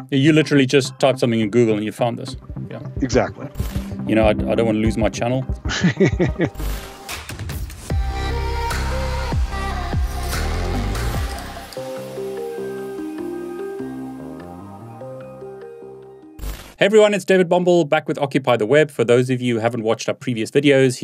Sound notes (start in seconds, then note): 5.6 laughs; 7.3 soft beat music